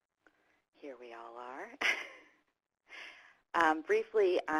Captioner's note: laughs